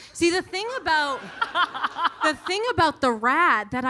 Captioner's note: audience laughing